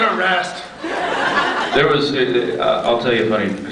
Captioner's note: scattered laughs